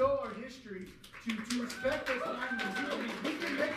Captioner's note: applause drowns out speaker